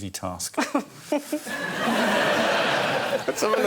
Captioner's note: laughter